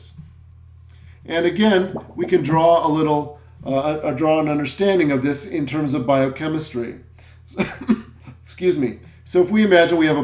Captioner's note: cough